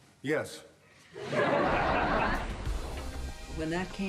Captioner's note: audience laughs